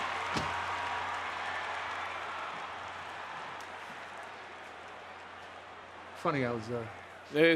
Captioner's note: applause